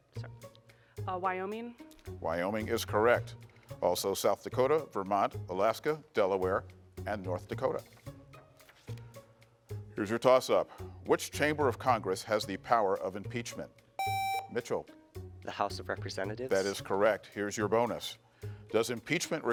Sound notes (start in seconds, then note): 14.0 buzzer beeps